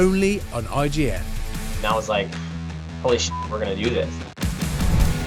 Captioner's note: beep